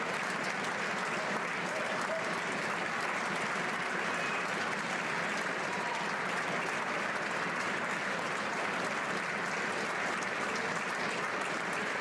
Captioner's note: applause